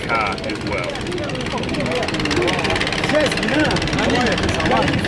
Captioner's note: boat engine spluttering